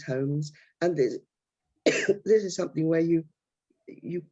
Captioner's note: coughs